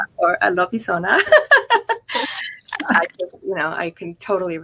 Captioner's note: laughs